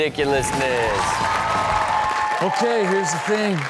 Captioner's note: rock music plays; crowd cheering